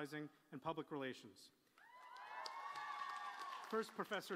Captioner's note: applause